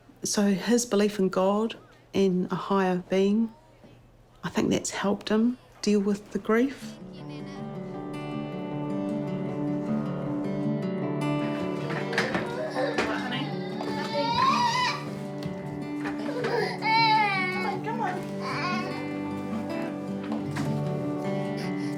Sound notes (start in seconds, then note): 9.0 gentle guitar music; 12.0 grizzles; 17.1 grizzles